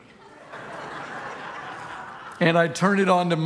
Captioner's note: congregation laughing